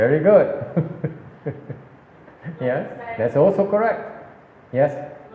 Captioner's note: laughs